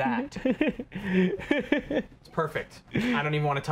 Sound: laughs

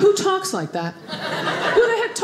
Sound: audience laughing

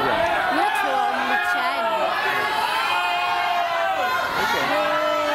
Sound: shouting

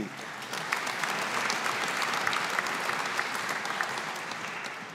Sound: audience applauding

